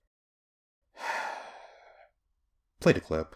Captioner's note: sigh